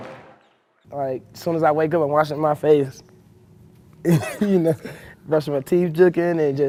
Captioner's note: laughs